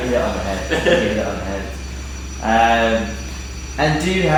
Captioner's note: laughing